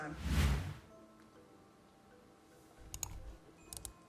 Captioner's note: whooshing